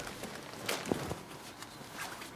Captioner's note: rusting